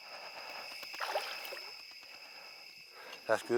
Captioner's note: water splashing